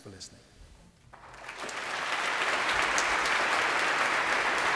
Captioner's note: applause